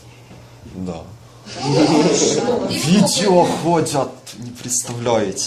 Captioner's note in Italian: risate